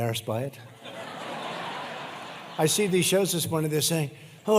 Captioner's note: laughter